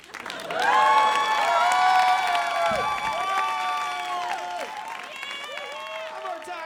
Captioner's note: audience laughing and applauding; audience cheering and applauding